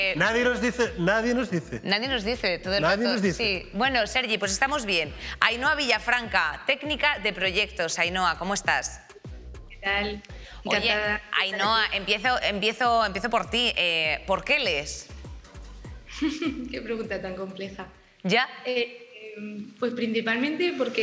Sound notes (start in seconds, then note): 16.2 laughter